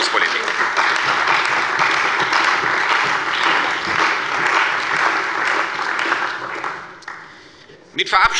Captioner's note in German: Beifall bei der CDU und dem BÜNDNIS 90/DIE GRÜNEN